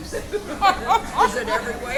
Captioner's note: both laughing